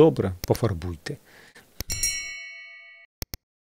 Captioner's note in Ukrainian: дзінок